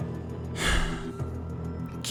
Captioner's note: sighs